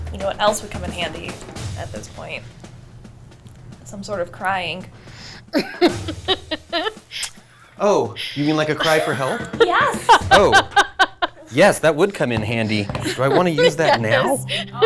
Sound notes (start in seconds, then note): 5.5 laughing